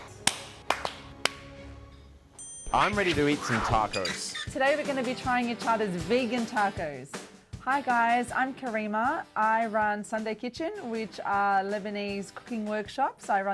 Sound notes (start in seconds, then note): 0.0 clapping; 2.4 chime